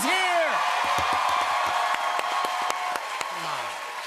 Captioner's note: cheers and applause